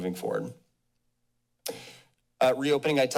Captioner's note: pause